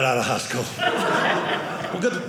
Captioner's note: audience laughing